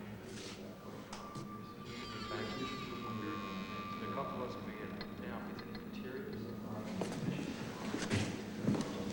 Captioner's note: indistinct chattering